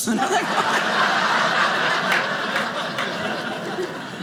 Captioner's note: audience laughing